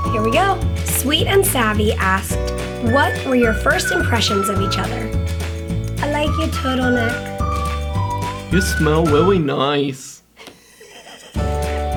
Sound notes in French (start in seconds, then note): 5.6 Voix drôle; 10.4 rire